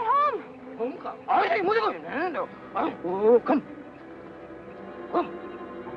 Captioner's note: man speaks Japanese